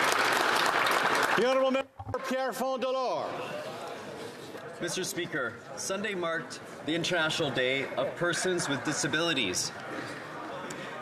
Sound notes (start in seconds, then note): 2.4 applause